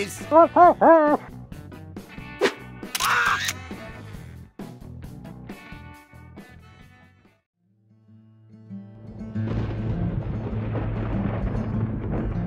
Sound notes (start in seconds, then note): 2.9 camera flash sound/Scout screams